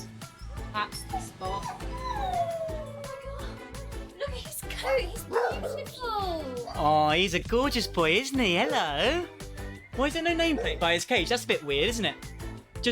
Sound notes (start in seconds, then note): 0.9 dog whimpering